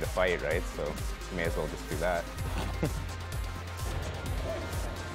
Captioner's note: chuckles